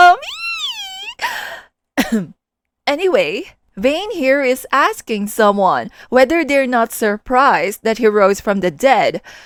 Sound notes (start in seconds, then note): 0.1 squeal; 2.0 ahem